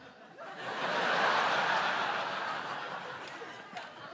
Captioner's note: laughter